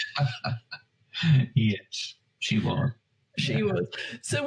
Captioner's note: laughs